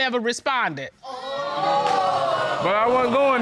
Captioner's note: audience exclaims